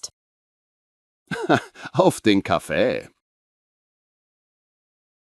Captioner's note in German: lacht